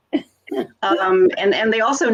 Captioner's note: laughs